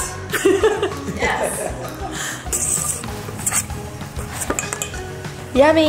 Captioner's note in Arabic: الكل يضحك